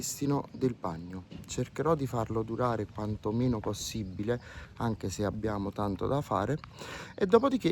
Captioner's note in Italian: sbuffare